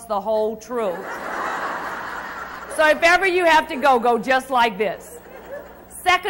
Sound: crowd Laughs

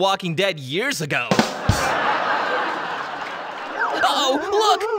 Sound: drum beat; audience laughs

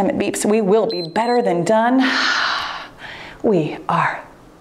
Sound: timer beeps

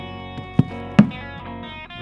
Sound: footsteps

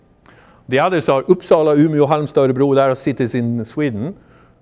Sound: speaking foreign language

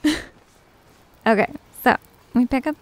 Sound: giggle

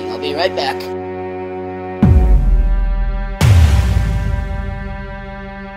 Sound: loud Door Bang Noise

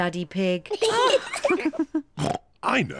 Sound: kids and mummy pig laugh; oinks

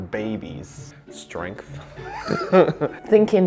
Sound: laughs

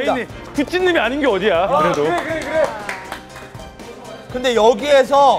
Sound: applaud

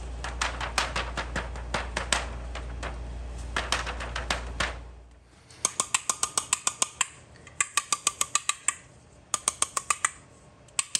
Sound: tapping

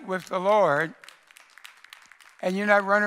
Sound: congregation applauds

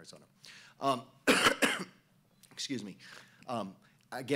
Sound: coughing

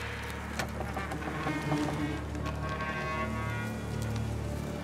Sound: door creaks

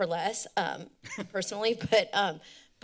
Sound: laughter

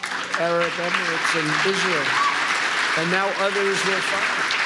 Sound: applause

